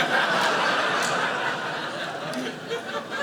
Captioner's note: audience laughing